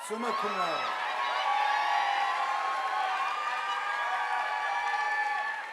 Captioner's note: audience applauding